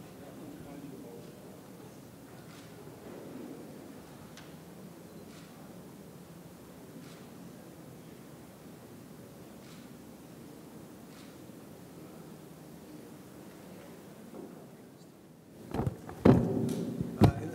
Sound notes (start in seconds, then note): 6.3 camera shutter clicking